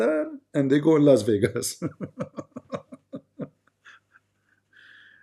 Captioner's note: Ketawa